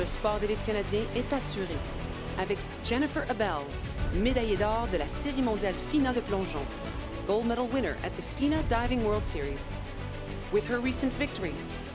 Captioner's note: speaking French